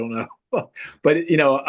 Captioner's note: laughs happily